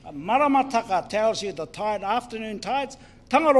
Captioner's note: speaks in foreign language